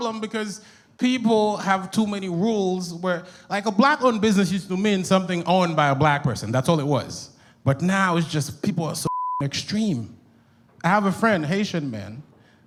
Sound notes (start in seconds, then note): 9.0 beep